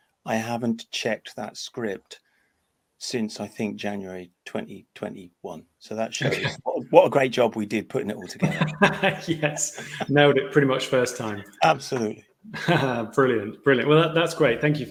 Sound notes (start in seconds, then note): 8.1 chuckles